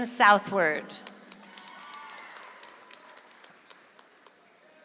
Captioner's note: audience applauds